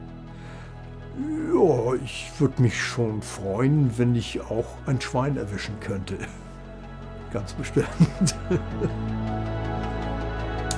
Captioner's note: laughs